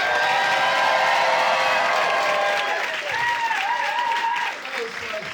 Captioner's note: audience applauding; audience cheering; audience applauding